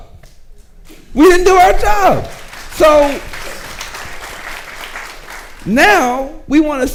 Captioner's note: audience clapping